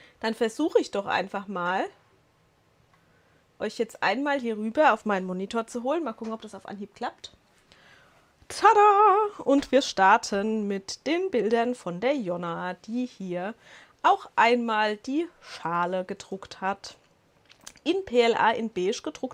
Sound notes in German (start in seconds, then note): none